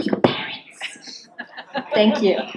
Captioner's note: laughs